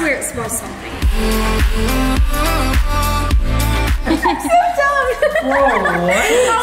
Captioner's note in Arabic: موسيقى مبهجة; تضحك